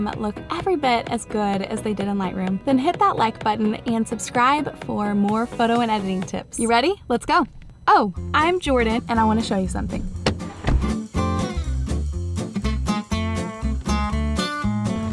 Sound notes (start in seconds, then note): 10.0 car door closes; 10.7 upbeat folk music